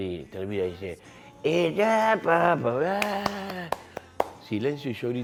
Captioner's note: imitates him